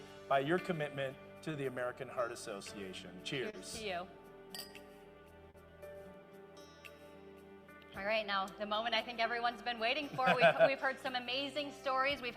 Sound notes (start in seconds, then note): 4.5 glass clinking